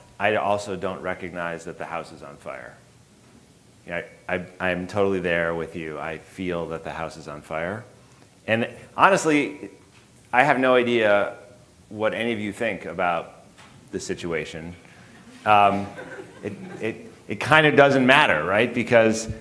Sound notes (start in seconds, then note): 15.1 audience chuckling